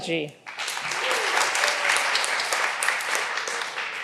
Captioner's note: all applauding